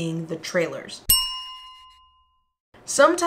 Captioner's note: bell chime